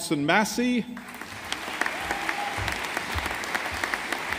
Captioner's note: audience applauding